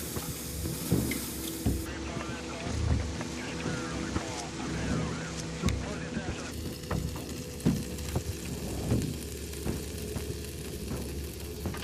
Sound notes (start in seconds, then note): 2.4 static radio; 6.4 food simmering